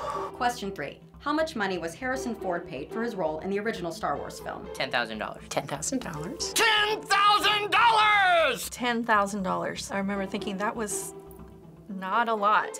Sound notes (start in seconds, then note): 0.0 breathing nervously; 6.7 yelling